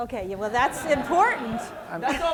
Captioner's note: laughter